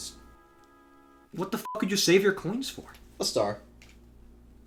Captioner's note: beeps